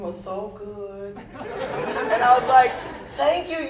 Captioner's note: laughter